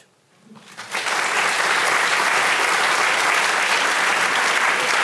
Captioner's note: audience applauding